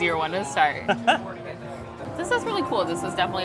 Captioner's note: laughs